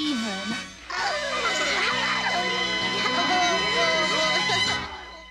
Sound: laughter

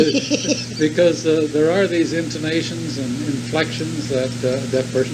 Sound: laughs

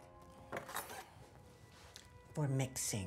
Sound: knife scraping

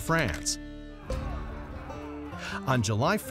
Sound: men yelling

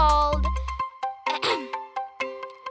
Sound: clearing throat

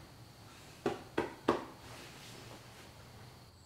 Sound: patting

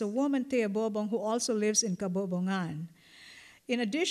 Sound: non-english

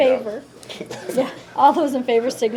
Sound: laughs

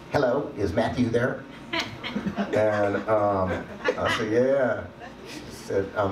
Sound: audience laughs

